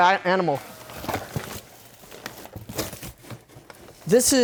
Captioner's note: rustling